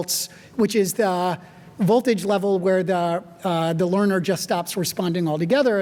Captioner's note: none